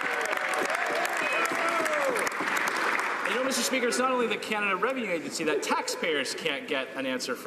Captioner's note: some Applause